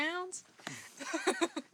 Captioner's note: laughs